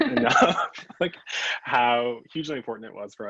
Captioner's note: both laugh